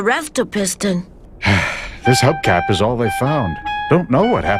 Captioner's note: sigh